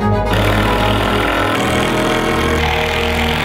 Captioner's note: drill